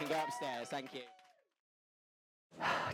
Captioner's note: applause